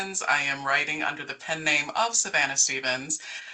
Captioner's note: none